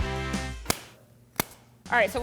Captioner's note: pop music; glove snaps